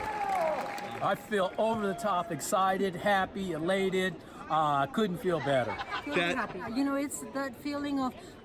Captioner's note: cheers and Applause